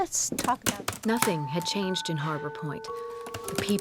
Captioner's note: typing